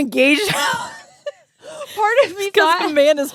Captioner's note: both laughing